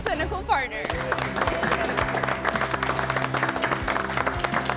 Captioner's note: group applauds